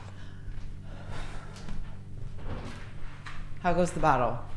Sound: Ruth sighs; somber music; Sandra sighs; floor creaking

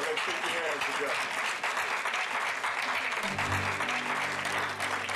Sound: clapping

